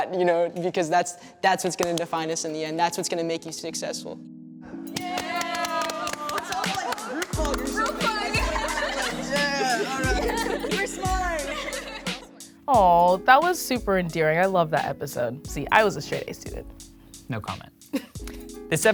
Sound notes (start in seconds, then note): 4.9 crowd cheers and applauds; 10.0 laughter